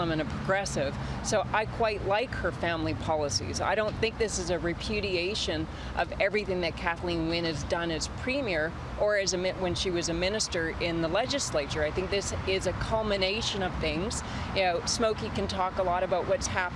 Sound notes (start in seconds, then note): none